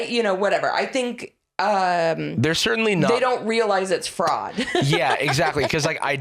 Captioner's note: laughs